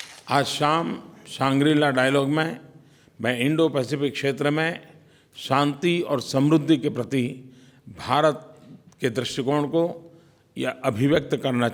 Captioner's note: PM Modi speaks in Hindi